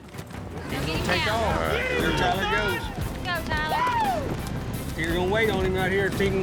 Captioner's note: all shouting